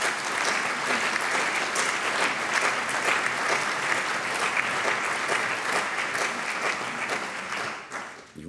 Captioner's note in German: Allgemeiner Beifall